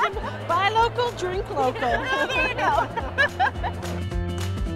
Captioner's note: laughs